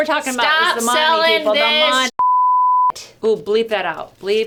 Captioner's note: beep